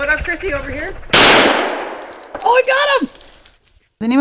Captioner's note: loud rifle shot